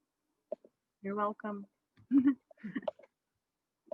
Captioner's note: laughs